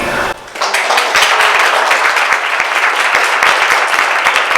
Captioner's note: audience clapping